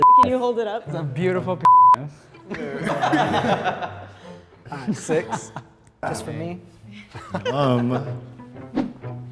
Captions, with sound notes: Can you hold it up? - It's a beautiful (beep). (group laughs) - Six. That's for me.